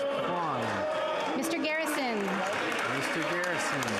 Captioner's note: some Applause